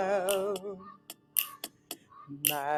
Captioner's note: raven caws